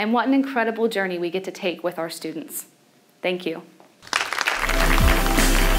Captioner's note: clapping